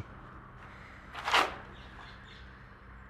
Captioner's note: rustling; birds chirping